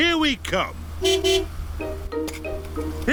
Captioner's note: honks horn